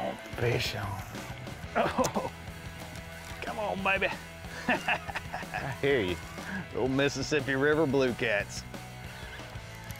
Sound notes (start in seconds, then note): 4.5 laughs